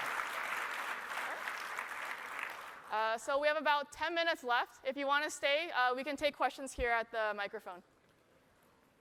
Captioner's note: applause